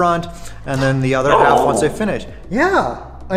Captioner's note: talking